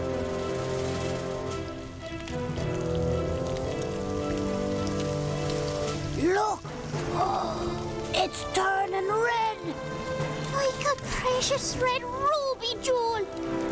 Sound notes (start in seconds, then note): 7.0 gasps